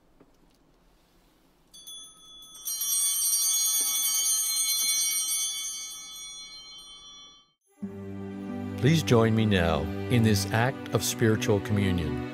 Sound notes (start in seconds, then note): 1.7 bell ringing